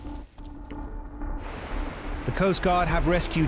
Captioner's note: intense music; water whooshing; waves crashing